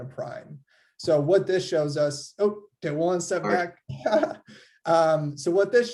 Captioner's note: giggles